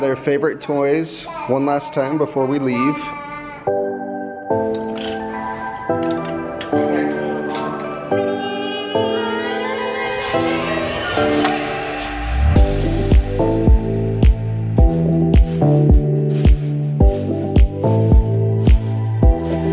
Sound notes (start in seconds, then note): 3.9 playful music; 8.7 kids shout